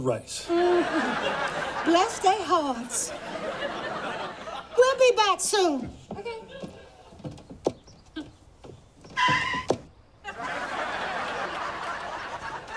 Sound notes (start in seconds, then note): 7.8 Jade chuckles; 8.7 tire screech